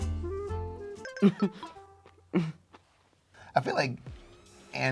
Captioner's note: laughing